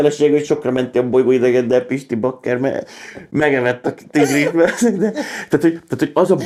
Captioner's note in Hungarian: nevetés